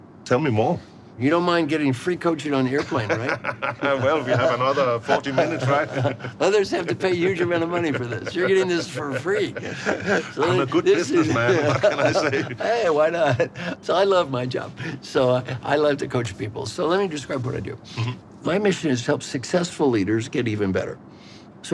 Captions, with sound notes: Tell me more. - You don't mind getting free coaching on the airplane, right? (laughing) - Well, we have another 40 minutes, right? - Others have to pay huge amount of money for this. You're getting this for free. - I'm a good businessman, what can I say? - Hey, why not? So, I love my job. So, I love to coach people, so let me describe what I do. My mission is to help successful leaders get even better.